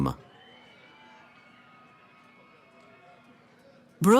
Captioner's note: cheering